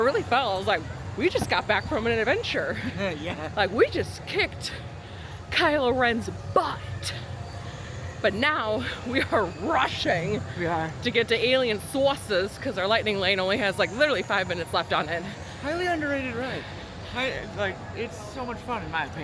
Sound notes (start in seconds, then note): 2.6 giggles